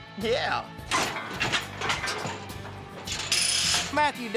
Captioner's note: clanging sounds